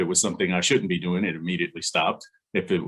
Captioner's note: laughs